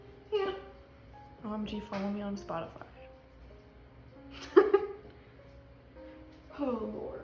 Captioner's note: laughs